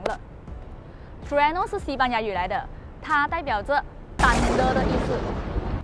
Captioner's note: thunder sound